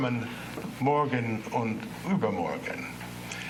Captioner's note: non-english speech